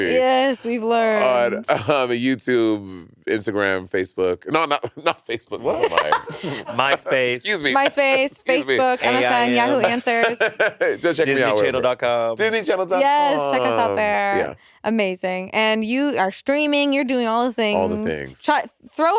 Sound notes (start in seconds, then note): 7.4 laughing; 10.2 Monét laughing